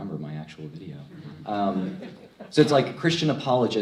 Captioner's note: crowd laughs